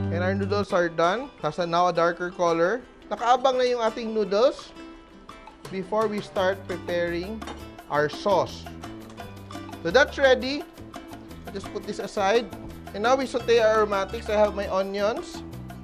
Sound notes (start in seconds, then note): 7.5 clang